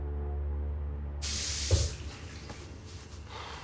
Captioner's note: water running